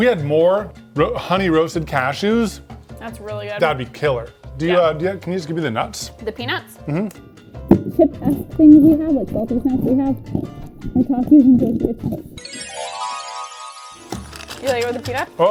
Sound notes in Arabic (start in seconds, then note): 8.0 تتمتم; 12.5 موسيقى غريبة الأطوار